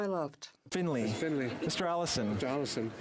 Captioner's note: speaking French